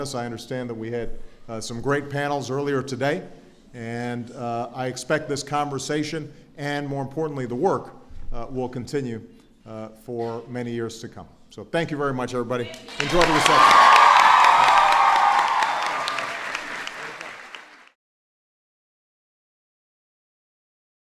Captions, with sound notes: I understand that we had some great panels earlier today, and I expect this conversation and, more importantly, the work will continue for many years to come. So thank you very much, everybody. Enjoy the reception. (Applause.)